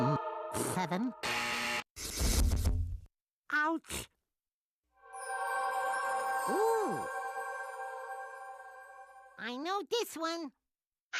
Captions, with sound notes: UM, 7? [buzzer sounding] OUCH. OOH. I KNOW THIS ONE.